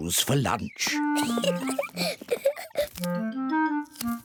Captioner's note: oinks; giggles